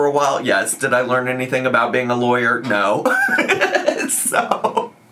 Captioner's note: laughs